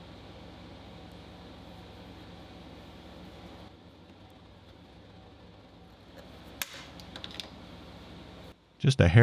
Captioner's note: metal snapping